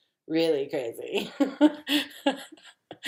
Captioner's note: laughs